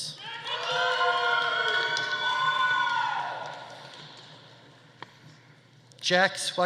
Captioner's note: audience cheering; audience applauding